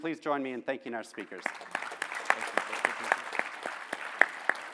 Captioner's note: applause